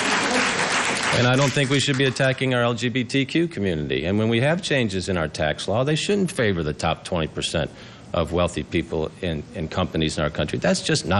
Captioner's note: applause